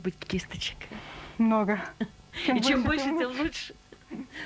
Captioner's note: laughs